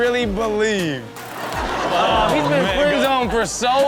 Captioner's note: audience laughs